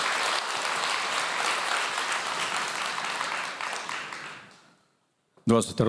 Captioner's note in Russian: аплодисменты